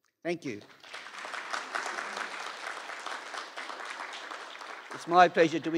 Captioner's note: applause